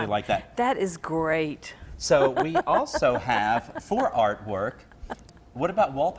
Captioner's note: laughs